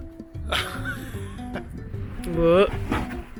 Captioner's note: laughing